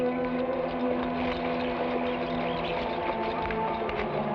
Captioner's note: horse hooves patter